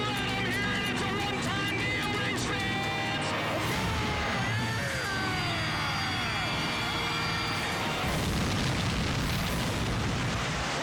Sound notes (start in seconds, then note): 3.6 ignites; 8.0 explodes